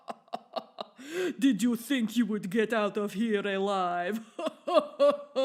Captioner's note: maniacal laughter; villain accent